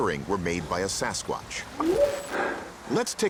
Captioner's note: whooping sound